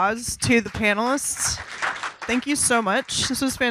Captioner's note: audience applause